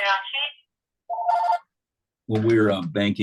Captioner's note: telephone rings